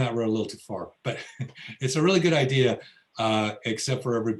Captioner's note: laughs